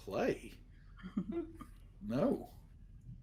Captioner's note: everyone laughs